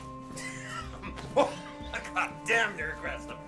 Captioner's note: laughing